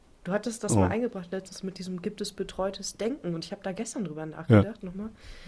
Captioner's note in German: räuspern